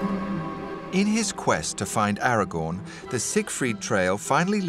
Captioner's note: voiceover